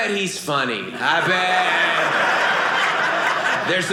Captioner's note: audience laughing